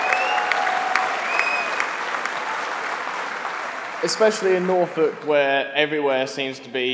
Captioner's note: applause